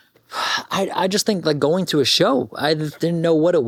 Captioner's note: sighs